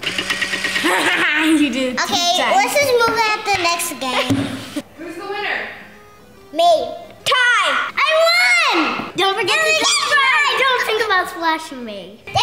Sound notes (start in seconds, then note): 0.8 laughs